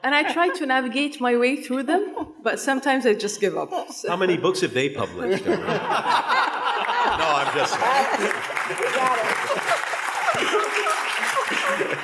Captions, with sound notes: And I try to navigate my way through them, but sometimes I just give up. - How many books have they published? (people laughing) No, I'm just kidding. (audience applauding)